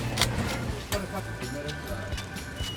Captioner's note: background chatter